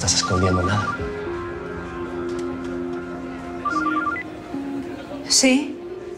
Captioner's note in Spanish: Suena el celular